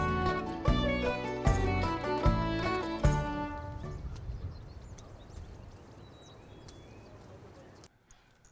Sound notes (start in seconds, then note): 4.4 birds chirp